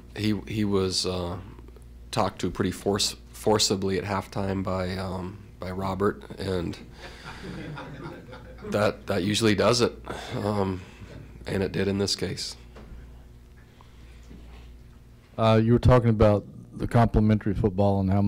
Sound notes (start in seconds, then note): 7.0 laughter